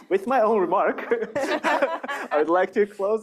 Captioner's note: laughter